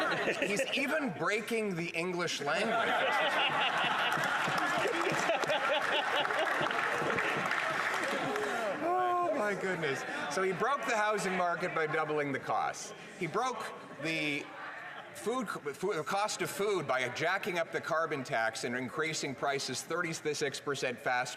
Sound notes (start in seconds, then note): 6.7 some Laughter